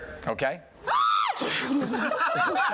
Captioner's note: screams; laughter